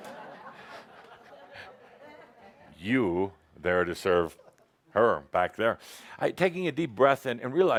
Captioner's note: some laughter